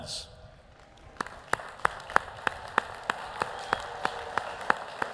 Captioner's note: audience applauding